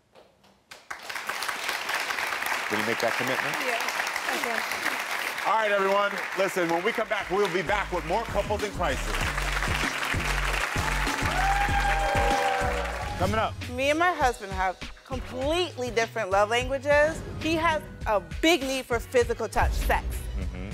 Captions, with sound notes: (audience clapping) Can you make that commitment? - Yeah, I can. - All right, everyone, listen. When we come back, we'll be back with more couples in crisis. (audience cheering) Coming up. - Me and my husband have completely different love languages. He has a big need for physical touch, sex.